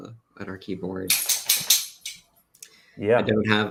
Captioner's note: clattering